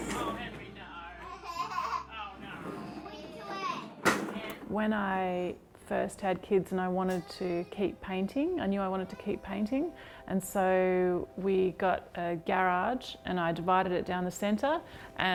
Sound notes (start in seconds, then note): 1.2 laughing; 2.5 kids chatter